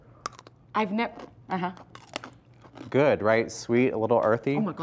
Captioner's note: crunch